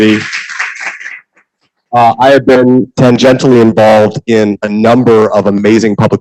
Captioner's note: applause